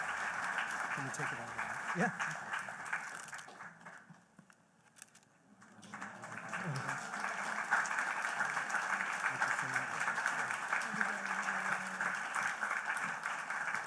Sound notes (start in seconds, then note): 2.9 applause